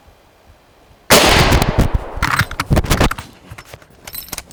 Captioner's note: loud gunshot